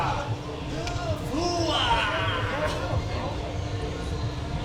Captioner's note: competitor cheering